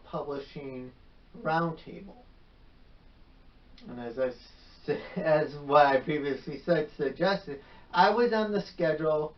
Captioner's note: chuckles